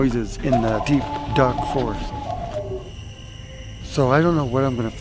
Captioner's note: creature howling